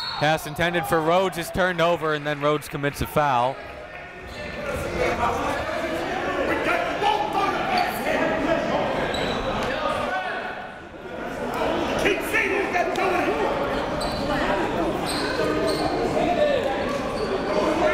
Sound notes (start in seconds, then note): 5.1 crowd talking; 5.8 coaches yelling